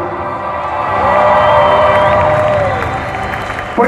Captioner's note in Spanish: aplausos